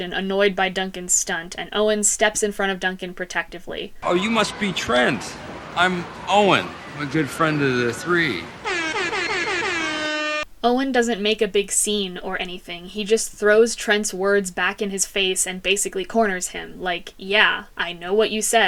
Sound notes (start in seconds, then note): 9.4 DJ airhorn blast